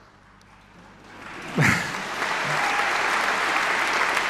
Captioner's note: people clapping